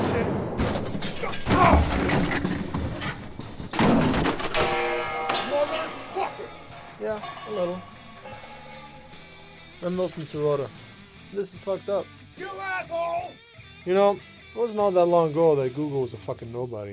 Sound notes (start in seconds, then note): 3.2 sound of metal crashing, pipes falling